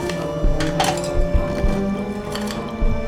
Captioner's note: eerie music; medical tools clacking; eerie music